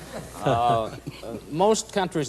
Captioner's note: laughter